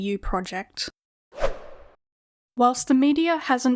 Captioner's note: whoosh Sound